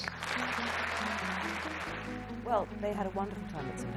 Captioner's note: audience applauds